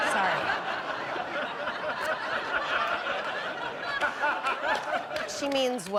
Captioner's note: audience laughing